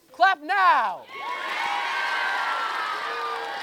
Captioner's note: cheering